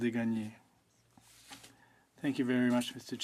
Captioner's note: speaking French